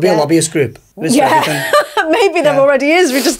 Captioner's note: laughs